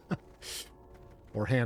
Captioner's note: laughing